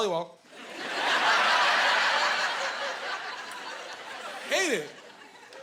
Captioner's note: laughing